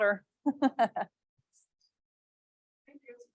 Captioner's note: laughs